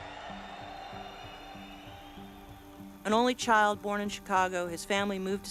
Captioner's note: crowds cheer